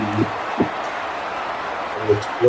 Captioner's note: crowd Noises